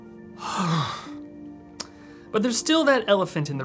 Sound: sighs

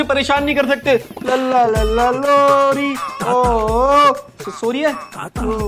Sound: reciting a poem

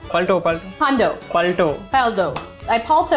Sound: speaking in Hindi

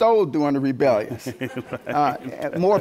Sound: laughter

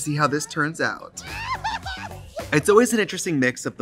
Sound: people squealing

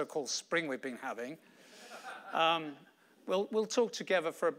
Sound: audience laughing

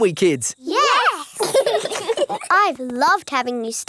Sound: laugh

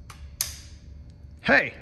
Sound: switch clicks

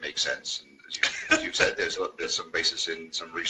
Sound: chuckles

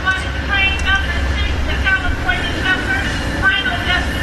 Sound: train Announcement

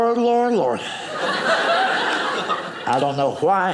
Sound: audience laughing

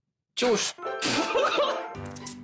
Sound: laughter

